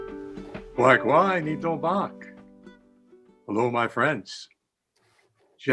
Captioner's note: speaking in Abenaki